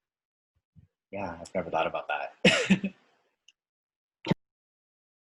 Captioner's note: laughing